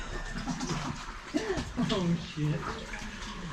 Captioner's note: laughs